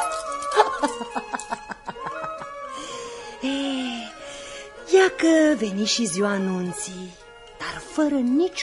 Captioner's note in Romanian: Râsete